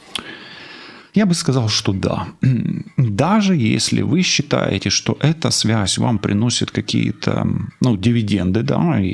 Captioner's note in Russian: откашливается